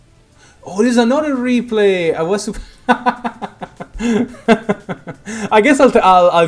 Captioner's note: big laughs; hahahah